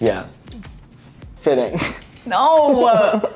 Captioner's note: laughs